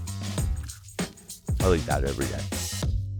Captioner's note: munching